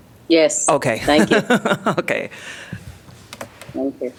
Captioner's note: laughter